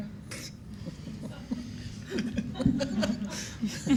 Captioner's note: attendees laughing